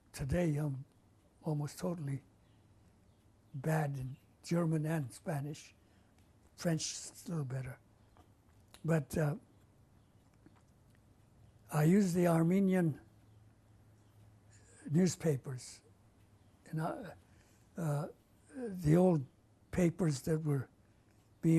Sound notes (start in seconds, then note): 9.4 pauses for 3 seconds